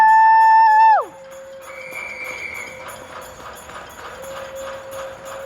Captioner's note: residents cheering